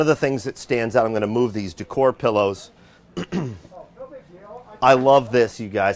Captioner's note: clears troat